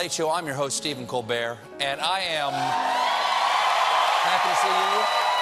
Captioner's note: cheers and applause